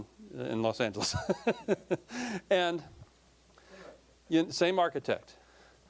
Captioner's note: laughing